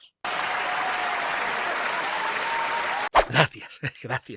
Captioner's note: applause